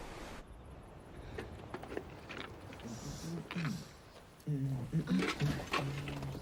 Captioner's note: clattering; man humming